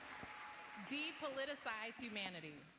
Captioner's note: cheers and applause